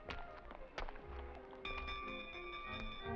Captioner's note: bell ringing